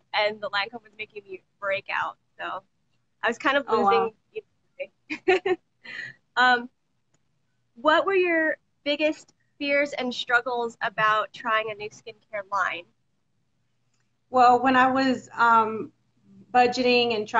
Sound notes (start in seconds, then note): 6.5 laughs